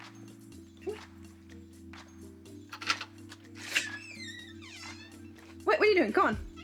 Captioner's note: upbeat soft music; door lock clicks; hinges creek